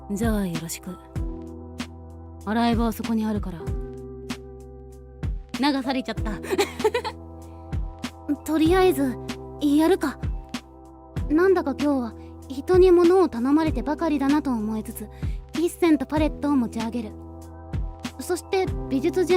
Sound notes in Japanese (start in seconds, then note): 6.5 笑い